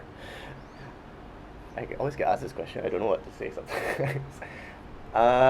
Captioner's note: laughs